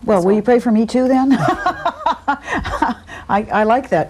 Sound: laughs

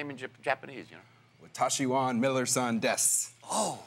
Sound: speaking Japanese

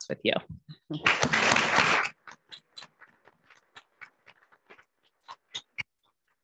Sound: committee members clapping

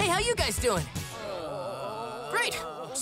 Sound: groaning

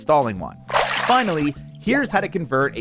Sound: water splashing

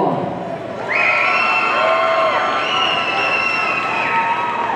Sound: audience cheering

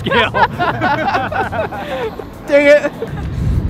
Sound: laughing

